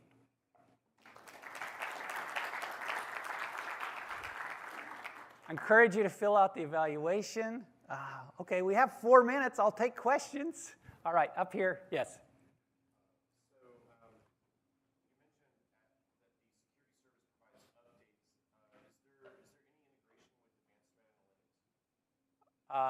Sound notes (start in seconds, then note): 2.6 applause